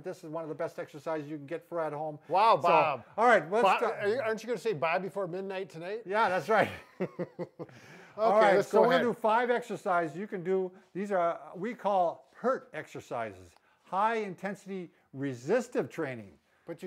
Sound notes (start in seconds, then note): 6.6 both chuckle